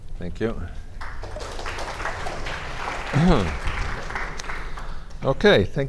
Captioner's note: applause